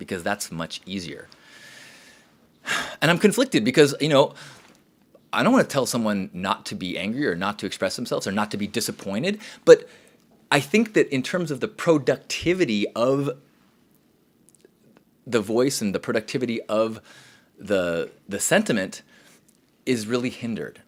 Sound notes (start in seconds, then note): 2.6 sighs loudly